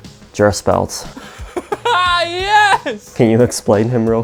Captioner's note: laughing